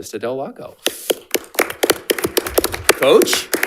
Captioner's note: attendees applauding